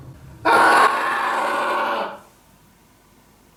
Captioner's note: screams